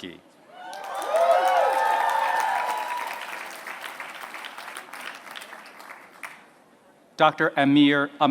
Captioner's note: applause